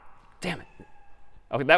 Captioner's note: میو زدن